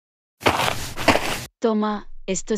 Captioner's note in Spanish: FX - Footsteps - On Multiple Dirt - Walk